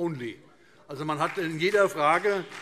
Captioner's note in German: Beifall SPD und vereinzelt CDU